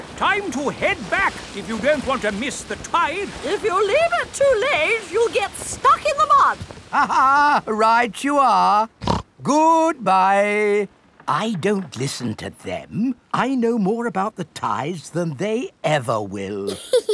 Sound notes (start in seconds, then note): 6.9 laughs; 9.0 snorts